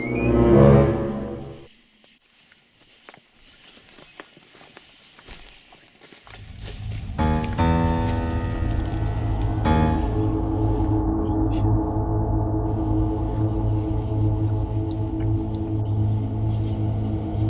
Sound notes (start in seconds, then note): 0.0 dramatic suspenseful music; 3.4 grass continues crunching; 7.4 eerie suspenseful music